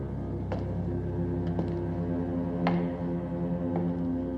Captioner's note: footsteps continue